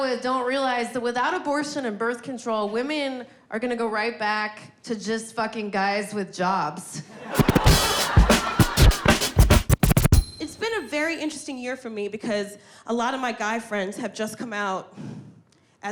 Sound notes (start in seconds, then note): 7.2 audience laughing; 7.3 lively hip hop music